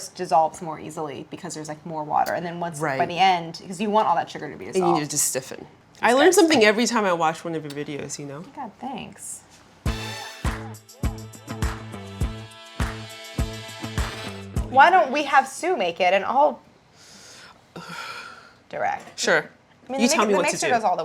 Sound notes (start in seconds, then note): 9.8 upbeat funky music; 17.7 gasps